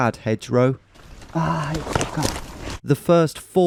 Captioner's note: exclaims